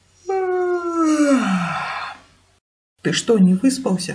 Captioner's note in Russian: Зевает